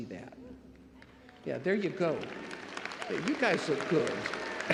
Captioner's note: crowd applauding